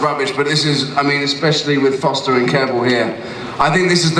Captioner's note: none